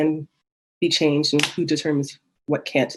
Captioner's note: banging